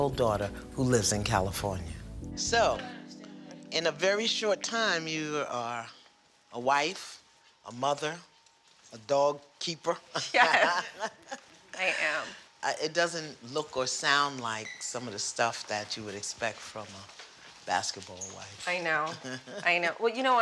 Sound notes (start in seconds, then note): 10.2 laughing; 10.2 laughs; 19.0 chuckles